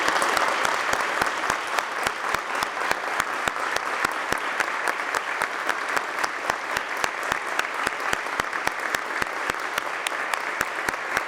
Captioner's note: applause